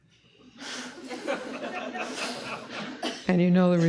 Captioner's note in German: Gelächter